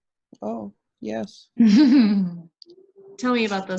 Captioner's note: laughing